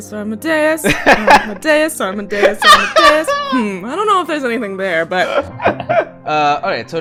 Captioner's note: laughter